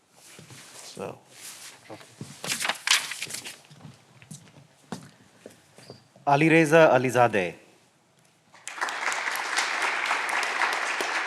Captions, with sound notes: (paper rustling) (footsteps receding) - Alireza Alizadeh. (All clapping)